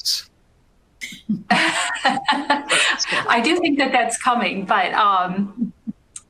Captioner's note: laughing